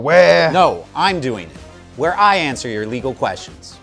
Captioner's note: sternly